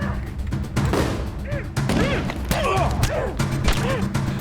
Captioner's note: grunting